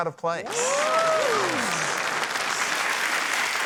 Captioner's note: cheering, applause